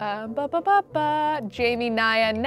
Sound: humming

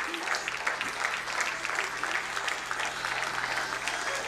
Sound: crowd applauding

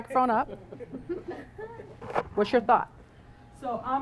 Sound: laugh

